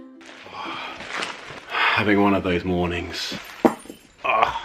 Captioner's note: sighs; keys clatter to floor, groans